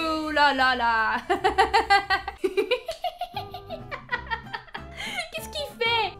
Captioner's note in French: rires